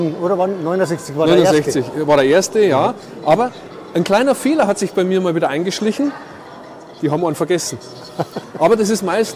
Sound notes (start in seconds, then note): 8.0 laughter